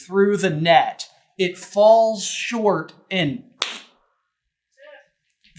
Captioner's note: clap